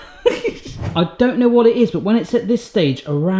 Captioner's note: laughs; air whooshing